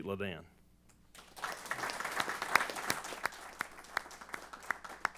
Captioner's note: applause